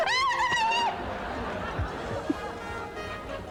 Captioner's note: screaming